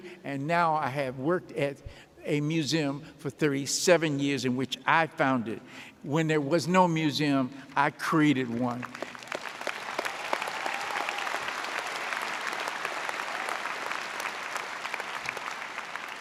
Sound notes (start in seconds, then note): 8.5 audience applauding